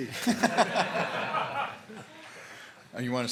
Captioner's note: laughter